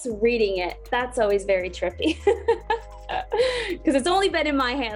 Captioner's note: laughs